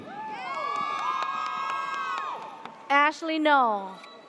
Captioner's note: audience cheers